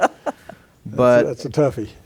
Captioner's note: laughter